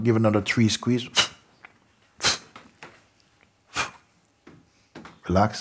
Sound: demonstrates short quick exhales

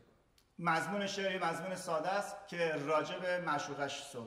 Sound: speaking in farsi

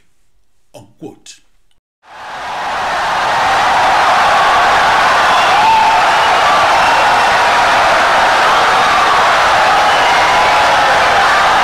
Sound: wild applause and cheering for 17 seconds

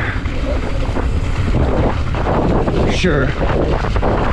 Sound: wind whipping

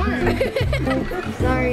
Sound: laughing

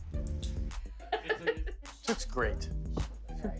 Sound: laughs

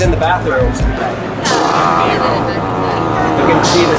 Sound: machines farts

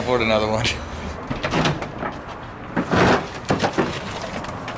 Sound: metal clanking

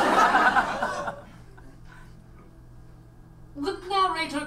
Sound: audience laughs

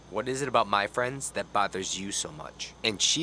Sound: none

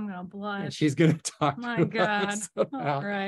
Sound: chuckles

